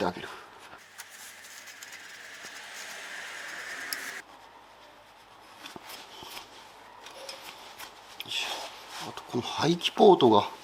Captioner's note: working sound